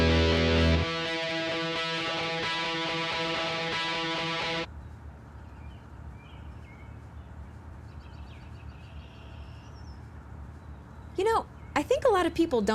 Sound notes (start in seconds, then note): 7.8 birds chirping